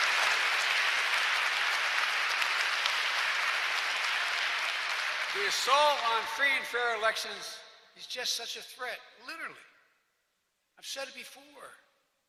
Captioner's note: applause